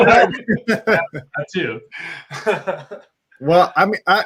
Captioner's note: laughter